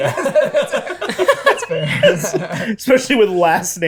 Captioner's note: laughter